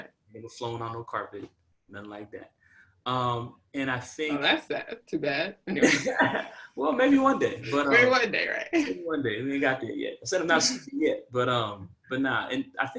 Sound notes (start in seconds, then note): 5.8 laughter